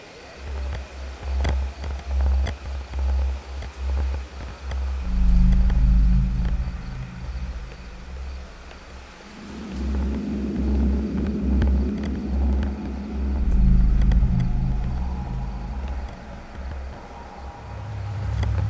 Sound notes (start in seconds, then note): 4.7 ominous music; 8.7 footsteps